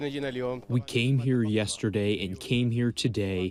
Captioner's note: through translator